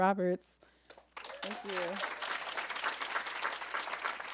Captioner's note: applause